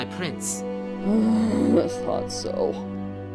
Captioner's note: sighs loudly